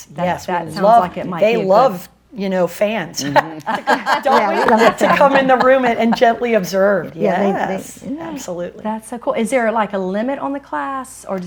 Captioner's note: laughs